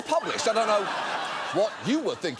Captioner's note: audience laughing